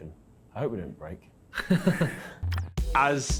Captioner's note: group laughs